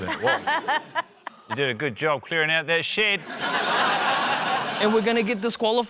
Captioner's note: laughter